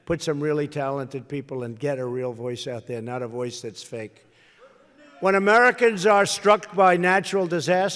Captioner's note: none